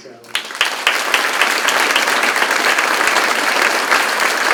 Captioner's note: crowd claps